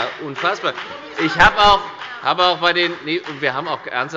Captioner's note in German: Beifall bei der FDP - Zurufe von der CDU und dem BÜNDNIS 90/DIE GRÜNEN